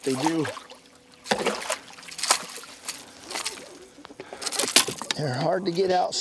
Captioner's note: splashing